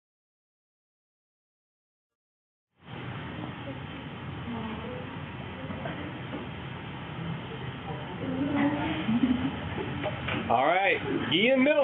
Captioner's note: Static